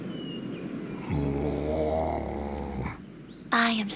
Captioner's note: grumbles